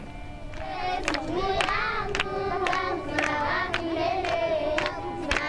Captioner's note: speaking in foreign language